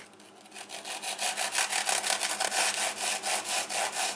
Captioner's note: knife sawing